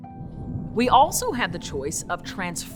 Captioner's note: thunder